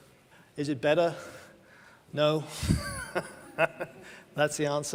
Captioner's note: laughs